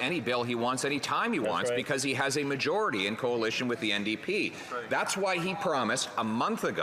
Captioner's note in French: voix de l'interprète